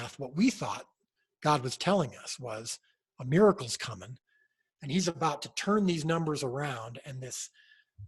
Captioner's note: none